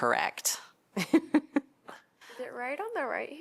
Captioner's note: laughter